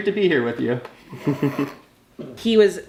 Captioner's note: dad giggles